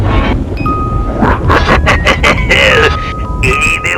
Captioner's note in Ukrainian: Зловісний Сміх